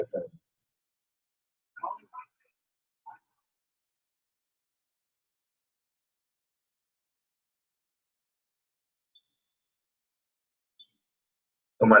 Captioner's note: silence & low-volume system noise